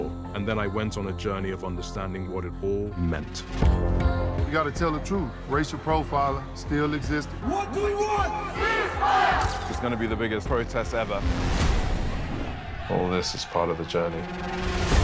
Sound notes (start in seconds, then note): 3.6 tense mysterious music; 8.5 crowd; 9.5 camera shutter snapping; 11.6 bold tense music